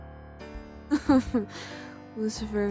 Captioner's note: SATAN laughs